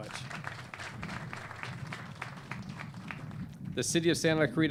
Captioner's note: clapping